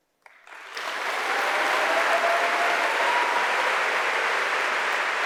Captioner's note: audience applauding